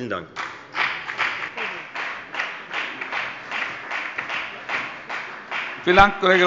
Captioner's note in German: Beifall bei der FDP